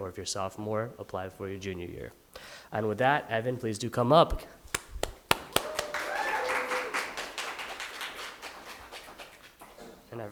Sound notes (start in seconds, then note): 4.7 applauds; 5.2 audience cheering and applauding